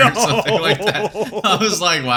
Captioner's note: both laugh